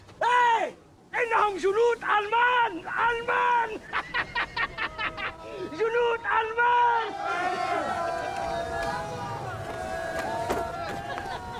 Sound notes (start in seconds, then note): 8.0 cheering